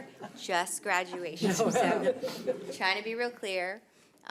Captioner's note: audience laughs